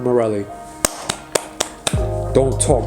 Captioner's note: clapping